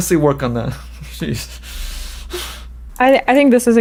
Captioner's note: laughs